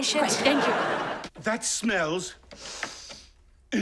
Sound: sniffing

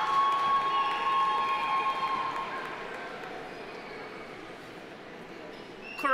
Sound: audience applauding; audience cheering

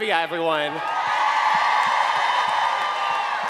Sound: cheering

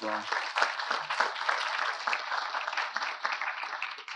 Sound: audience applauding

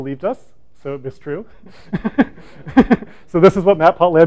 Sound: laughter

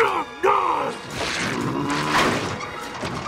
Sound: growling

